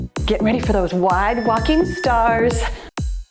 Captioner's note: timer beeps; cheerful music